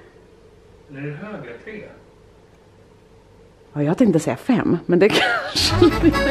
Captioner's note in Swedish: skratt